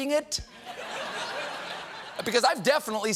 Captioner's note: laughter